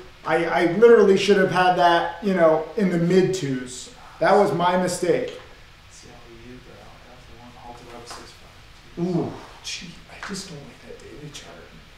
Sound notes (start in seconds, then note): 7.0 students whisper